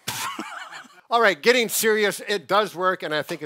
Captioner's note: laughs